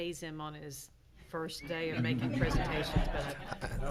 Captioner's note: laughing